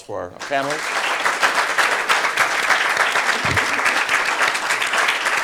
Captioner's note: audience applauding